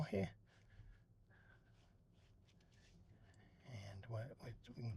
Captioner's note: silence